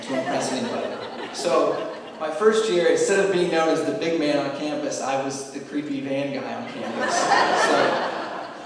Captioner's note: laughing